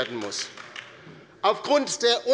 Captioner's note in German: Beifall bei der LINKEN